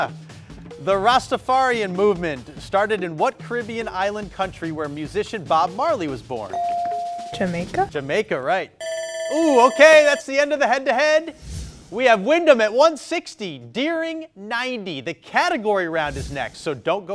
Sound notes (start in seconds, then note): 6.6 buzzer dinging; 8.8 timer ringing